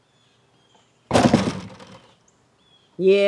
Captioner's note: door clatters